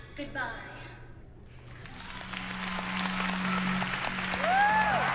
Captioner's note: cheering, applause